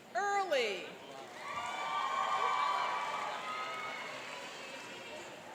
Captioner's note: cheering and applauding